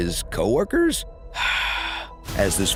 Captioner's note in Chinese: 嘆氣